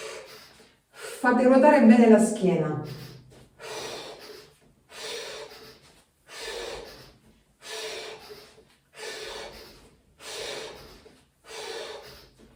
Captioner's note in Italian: sbuffare; sbuffare